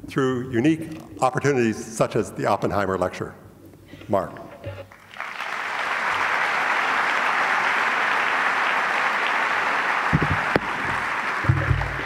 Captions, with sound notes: through unique opportunities such as the Oppenheimer Lecture, Mark. (audience applauds)